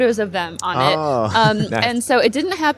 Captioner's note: chuckle